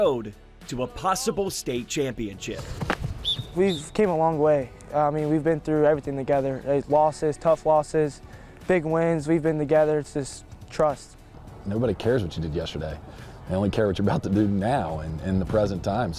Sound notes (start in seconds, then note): 3.2 sounds of football